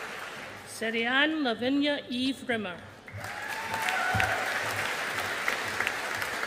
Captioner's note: audience applauding